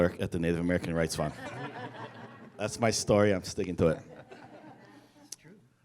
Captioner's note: laughter